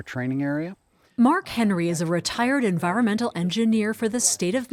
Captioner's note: voice-over